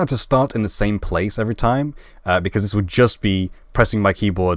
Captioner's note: none